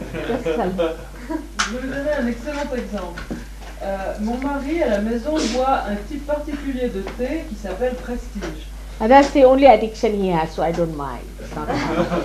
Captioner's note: laughter